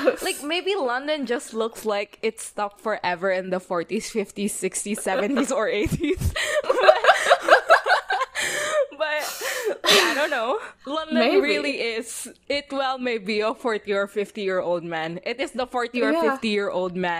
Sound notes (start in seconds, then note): 5.0 both laugh